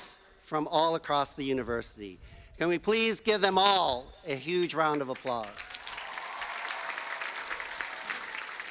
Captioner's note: cheers and applause